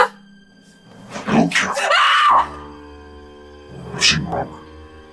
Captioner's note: Kathryn screams